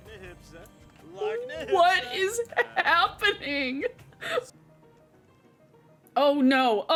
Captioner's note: laughs